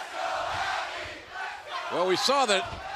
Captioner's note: fans chanting